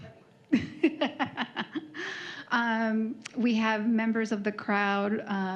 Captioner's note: laughs